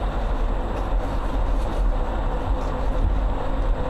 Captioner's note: engine